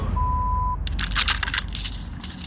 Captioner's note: clatters